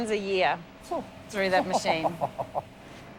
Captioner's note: laughs